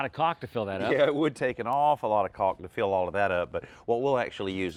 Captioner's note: laugh